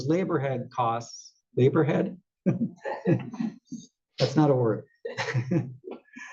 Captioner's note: laugh